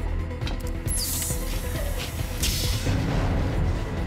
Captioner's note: door hissing; suspenseful music continues